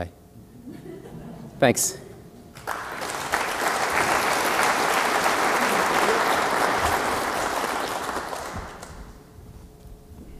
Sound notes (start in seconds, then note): 0.4 laugh; 2.5 applause